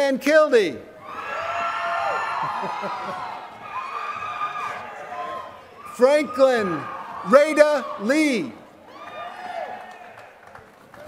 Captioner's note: laughter